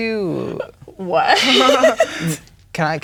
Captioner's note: laughing